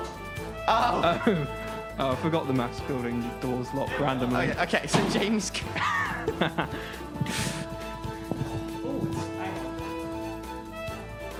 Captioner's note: laughing